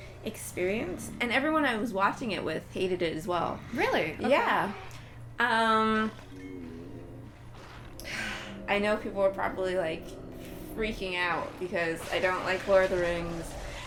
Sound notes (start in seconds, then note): 8.0 sigh